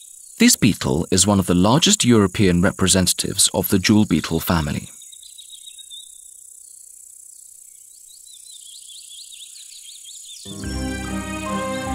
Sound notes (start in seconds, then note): 0.0 sounds of nature; 4.9 sounds of nature; 10.4 lively music, sounds of nature